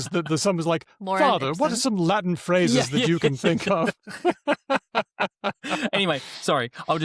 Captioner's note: laughter